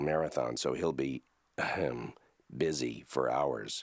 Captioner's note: clearing throat